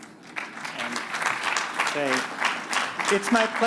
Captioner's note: applause